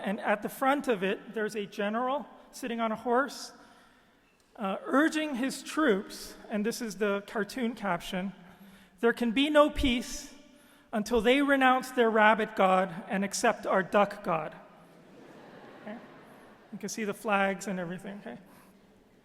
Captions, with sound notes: and at the front of it there's a general at the front of it, sitting on a horse, urging his troops, and this is the cartoon caption. There can be no peace until they renounce their Rabbit God and accept our Duck God. (audience laughing) You can see the flags and everything.